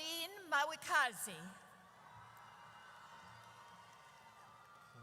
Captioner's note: audience cheers